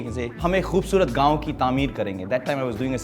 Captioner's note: speaking Hindi